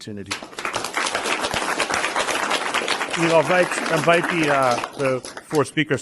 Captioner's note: applause